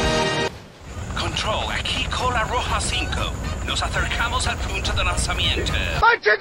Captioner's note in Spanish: radio